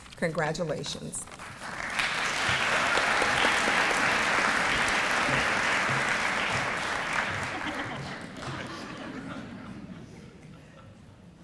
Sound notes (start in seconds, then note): 3.4 audience applause